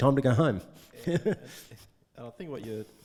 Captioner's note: laughing